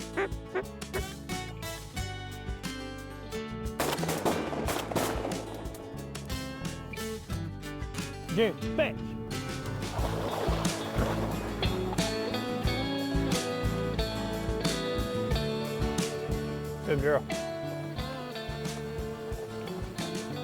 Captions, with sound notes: (duck call quacking) (rifles bang) June, fetch. (water splashes) (soft music) Good girl. (soft music)